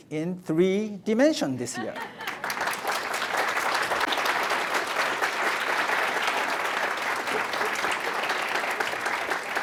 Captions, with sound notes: in three dimension this year. (audience applauds)